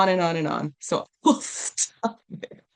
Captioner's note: while laughing